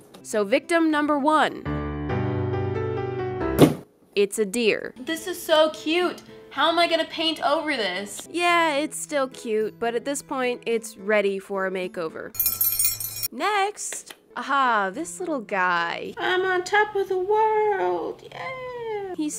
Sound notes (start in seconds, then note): 3.5 smack; 13.4 clap clap